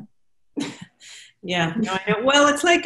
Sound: laughing

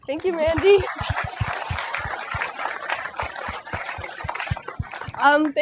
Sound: applause

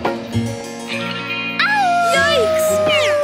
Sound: howling

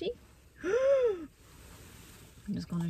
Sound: gasp

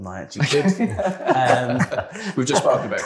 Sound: laughter

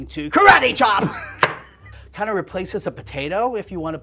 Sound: laughs

